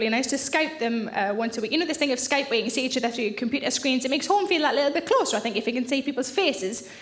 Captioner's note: none